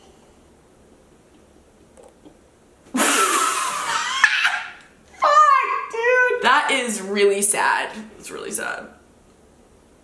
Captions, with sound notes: (laughing) Dude! That is really sad, that's really sad.